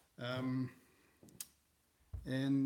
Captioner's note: thump